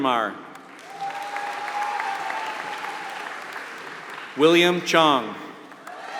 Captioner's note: applause